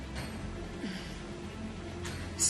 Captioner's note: sighs heavily